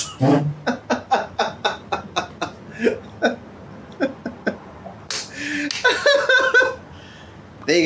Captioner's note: laughs